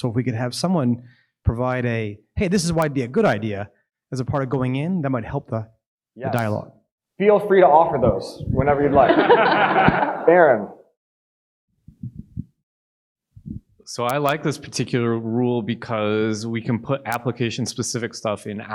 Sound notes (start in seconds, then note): 8.8 audience laughing